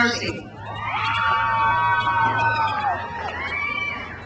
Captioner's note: crowd cheers